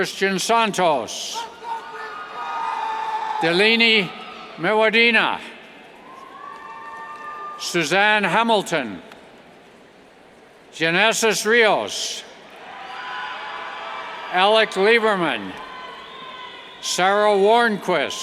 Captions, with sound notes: Christian Santos, (cheers) Dilini Meewadena, (cheers) Suzanne Hamilton, Genesis Rios, (cheers) Alex Lieberman, Sara Warnquist,